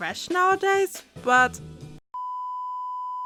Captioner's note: peep